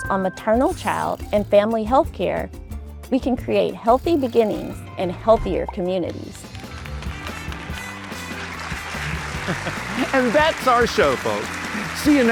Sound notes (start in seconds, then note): 6.5 audience applauding; 8.0 upbeat music